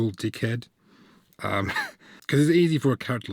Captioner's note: laugh